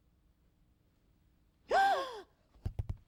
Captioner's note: gasps